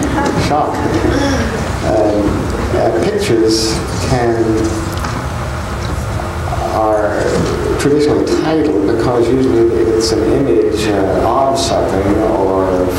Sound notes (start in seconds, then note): 0.0 laughs; 0.0 crowd laughing